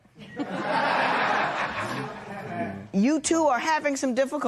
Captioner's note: laughter